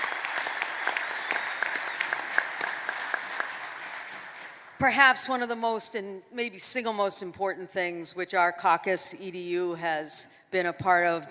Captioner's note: applause